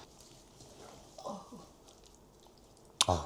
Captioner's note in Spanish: gemidos de esfuerzo